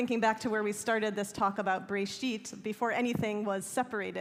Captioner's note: hebrew